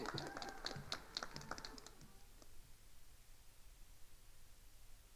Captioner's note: attendees applauding